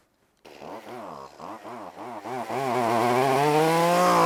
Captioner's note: saw rasping